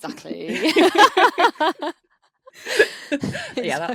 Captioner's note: all laughing